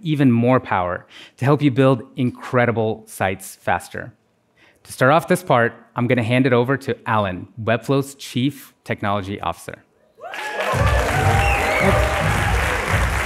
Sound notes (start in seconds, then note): 10.2 applause